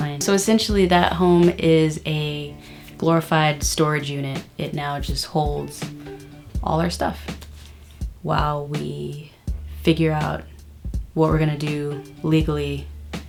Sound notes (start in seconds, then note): none